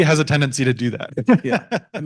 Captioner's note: laughs